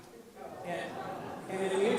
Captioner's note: audience murmurs